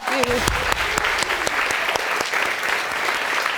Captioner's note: audience applauding